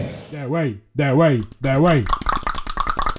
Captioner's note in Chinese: 彈舌